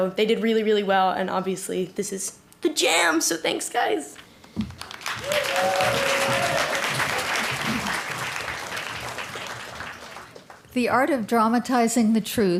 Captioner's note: applause